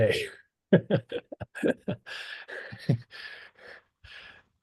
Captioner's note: laughs